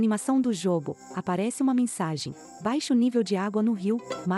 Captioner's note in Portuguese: Ruídos de mata